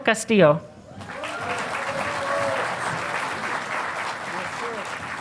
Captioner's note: audience applauding